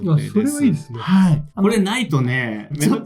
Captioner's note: laughs